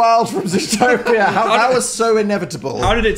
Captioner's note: Dan and Phil laughing